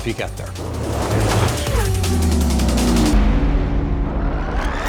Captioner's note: car engines revving